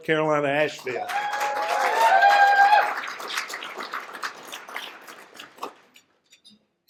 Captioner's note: cheers and applause